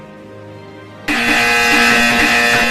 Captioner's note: ̷i̷̷n̷̷c̷̷o̷̷r̷̷r̷̷e̷̷c̷̷t̷ ̷b̷̷u̷̷z̷̷z̷̷e̷̷r̷